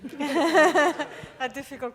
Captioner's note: audience laughing